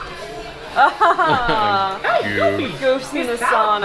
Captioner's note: laughing